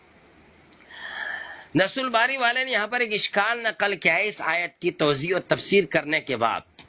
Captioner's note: sighs